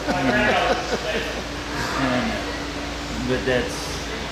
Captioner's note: laughing